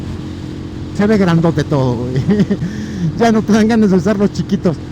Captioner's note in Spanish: risas